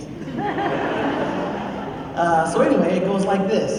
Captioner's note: laughter